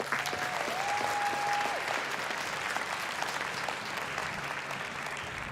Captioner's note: applause